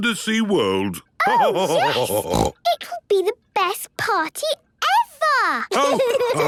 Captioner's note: laughter and snorting; laughter